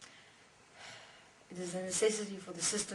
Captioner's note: sigh